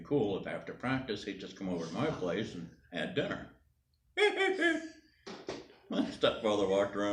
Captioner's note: laughs